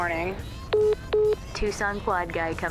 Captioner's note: phone message beeping